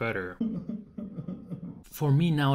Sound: man cries

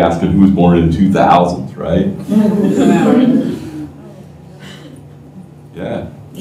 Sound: laughter

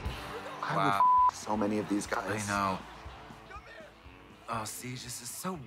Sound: beep

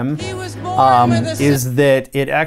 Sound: documentary playing

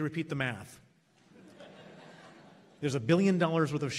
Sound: laughs

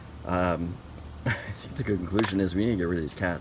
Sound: chuckles

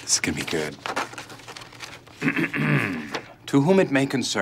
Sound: clears throat

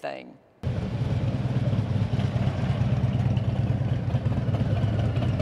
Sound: motorcycle engines roaring

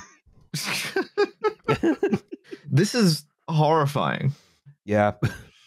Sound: laughter

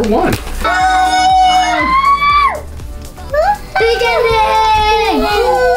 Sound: girls screaming together

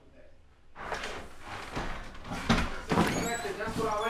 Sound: feet shuffling

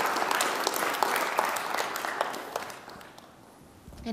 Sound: audience applauds

